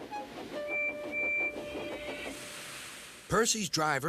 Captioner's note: whistles